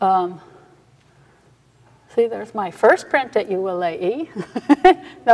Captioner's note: laughs